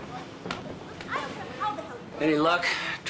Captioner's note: investigator and Chan shouting